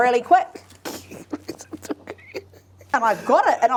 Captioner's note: laughing